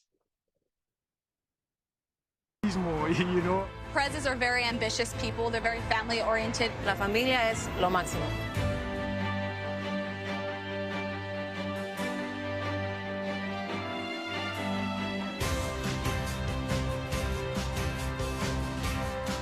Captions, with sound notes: - These more. - Are very ambitious people, they're very family oriented. (speaking in foreign language) (upbeat music)